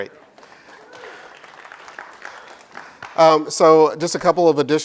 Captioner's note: clapping